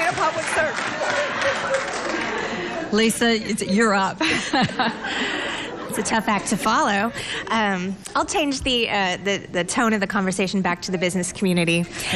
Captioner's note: laughter